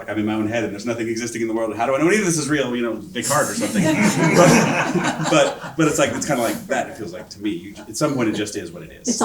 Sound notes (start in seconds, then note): 3.2 audience laughing